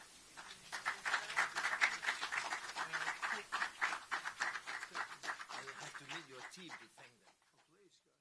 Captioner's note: applause